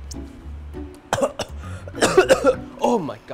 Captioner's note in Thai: ไอ